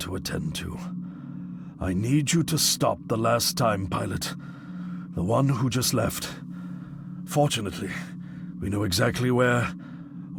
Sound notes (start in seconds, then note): none